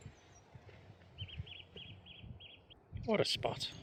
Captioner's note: birds chirping